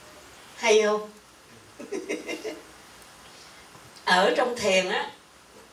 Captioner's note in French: rires